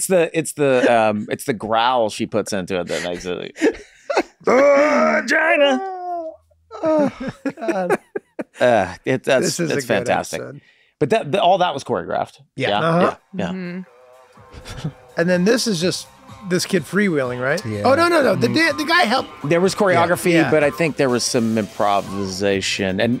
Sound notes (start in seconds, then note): 2.8 Rob laughs; 6.7 Charlie laughs